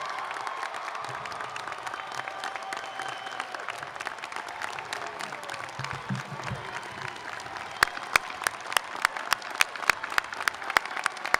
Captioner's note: applause